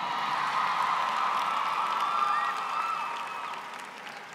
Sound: applause

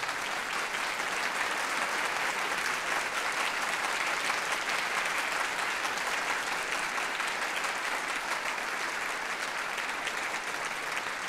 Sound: applause

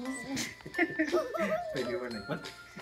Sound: laughing

